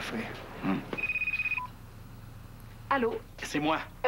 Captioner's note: Le téléphone sonne